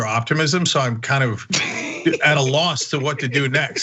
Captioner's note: laugh